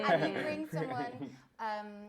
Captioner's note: laughter